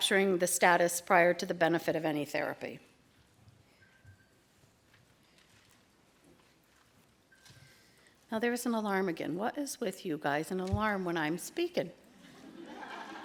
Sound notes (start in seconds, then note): 3.8 alarm going off